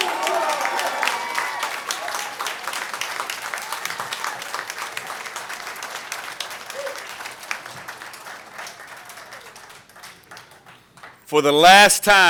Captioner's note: applause